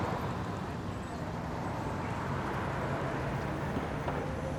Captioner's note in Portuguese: som de pessoas conversando